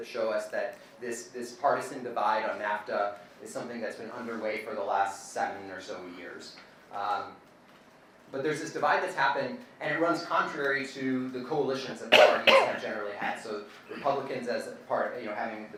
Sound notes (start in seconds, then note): 12.1 coughing